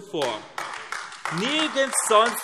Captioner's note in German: Beifall AfD